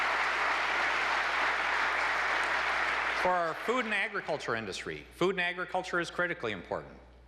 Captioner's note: applause